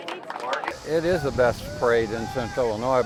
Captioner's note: applause